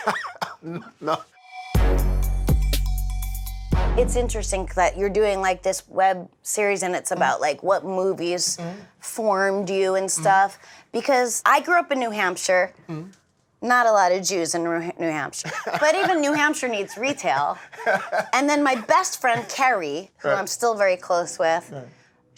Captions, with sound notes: [LAUGHS] No. It's interesting that you're doing this web series, and it's about like what movies formed you and stuff. Because I grew up in New Hampshire-- not a lot of Jews in New Hampshire. But even New Hampshire needs retail. [LAUGHING] And then my best friend Keri, who I'm still very close with,